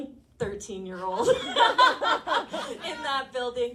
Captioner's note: all laughing